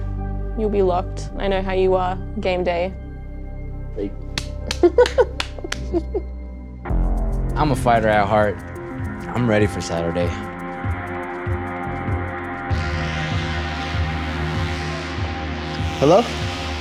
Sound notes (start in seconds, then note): 4.5 laughs; 10.5 dramatic music playing